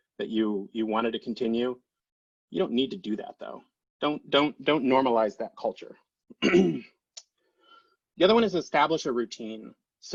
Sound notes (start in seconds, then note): 6.3 clears throat